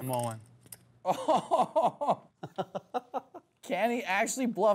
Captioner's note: laughs